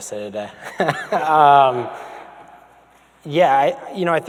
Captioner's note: man laughs